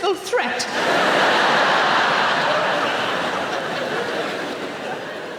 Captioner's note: audience laughing